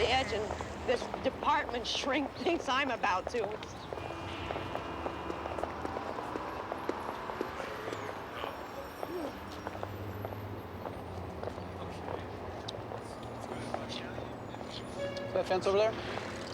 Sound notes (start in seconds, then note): 9.0 sighs